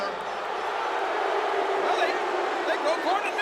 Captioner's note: audience booing